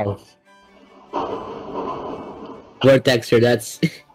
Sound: crashing in Background; chuckles

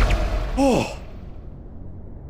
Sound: SMii7Y sighs

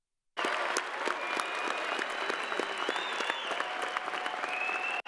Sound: crowd applauding

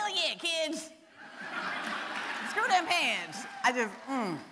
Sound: audience laughing

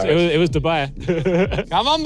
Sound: laughs

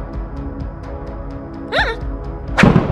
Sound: gasp

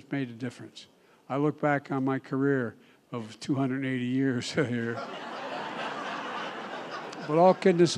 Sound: laughter

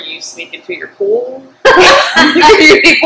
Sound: laughter

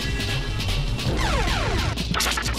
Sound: Hotel Mario volcano noise and *DIW DIW diw diw

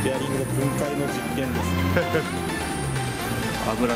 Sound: laughs

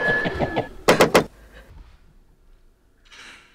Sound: knock Knock sound

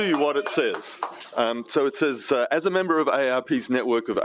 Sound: applause

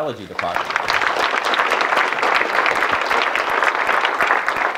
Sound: audience clapping

